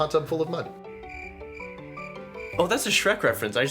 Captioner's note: crickets